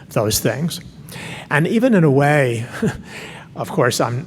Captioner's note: laughs